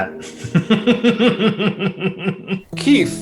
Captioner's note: both laughing